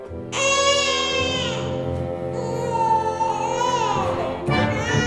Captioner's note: baby cries